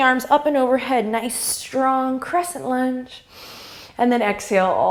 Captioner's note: inhale